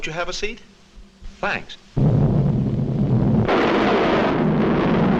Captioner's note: volcano rumbling